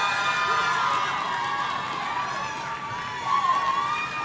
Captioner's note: audience cheering